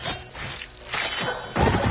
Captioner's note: crashing